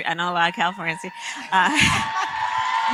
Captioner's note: applause